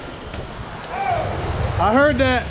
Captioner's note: shouting